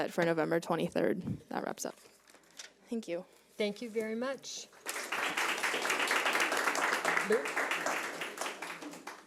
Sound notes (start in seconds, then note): 4.8 audience clapping